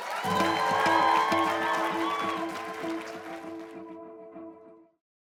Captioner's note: applause